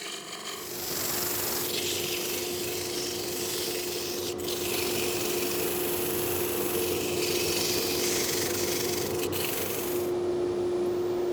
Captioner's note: lathe whirring